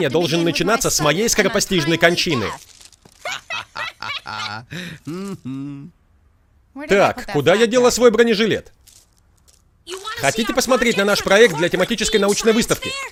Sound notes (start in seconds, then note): 3.2 both laughing; 10.5 water sloshing